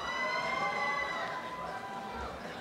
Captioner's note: applause and cheering